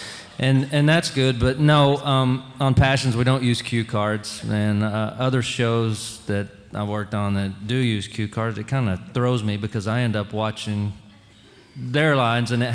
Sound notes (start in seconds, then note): none